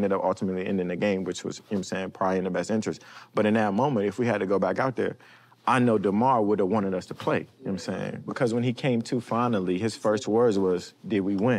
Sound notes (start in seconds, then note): none